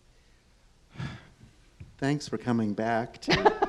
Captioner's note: sighs; laughs